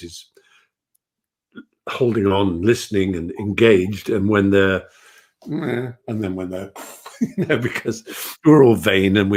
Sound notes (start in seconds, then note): 6.5 laughs